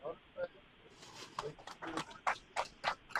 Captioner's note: applause